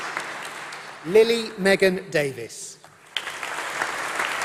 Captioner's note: applause